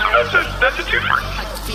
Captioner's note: electricity humming